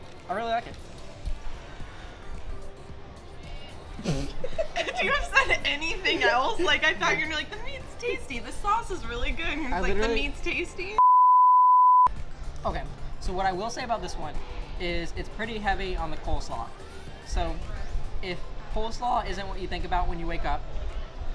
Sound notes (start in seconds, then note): 4.1 laughter; 11.0 beeping